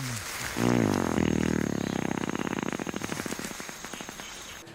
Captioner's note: gorilla toot